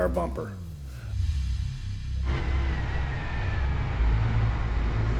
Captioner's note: engine revving